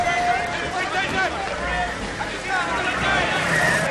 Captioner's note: all shouting